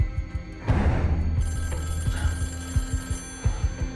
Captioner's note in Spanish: Suena el teléfono